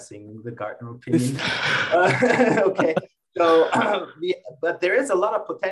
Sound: panel attendees laughing

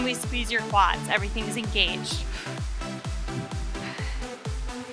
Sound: breaths

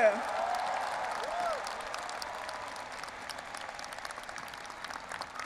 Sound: audience applauding and cheering

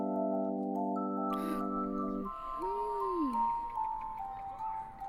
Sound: child gasping

